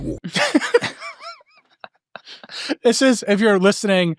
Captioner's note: all laughing